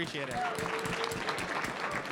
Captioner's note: applause